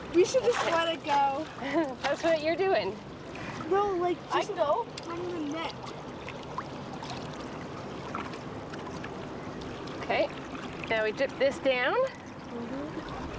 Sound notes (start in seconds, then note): 0.2 fish splashing